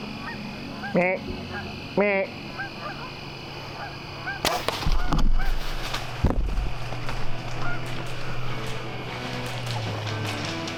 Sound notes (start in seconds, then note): 0.2 imitates deer call; 4.4 arrow thuds; 7.9 upbeat music